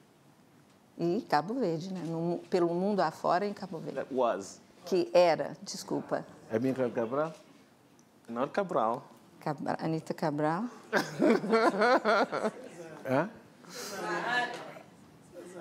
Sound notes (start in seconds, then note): 0.9 speaking portuguese; 5.6 speaking portuguese; 10.9 laughs